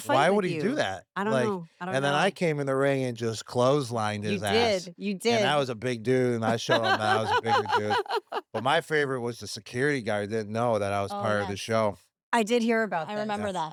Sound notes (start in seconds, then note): 6.3 laugh